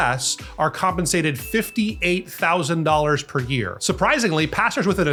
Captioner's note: bell dings